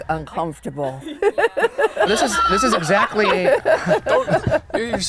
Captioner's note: laughs; laughter